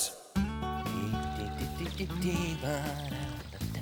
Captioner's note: water Running